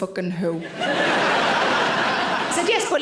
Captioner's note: audience laughing